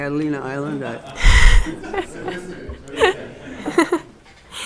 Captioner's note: audience laughing